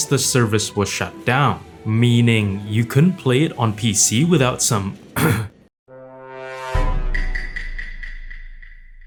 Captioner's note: cough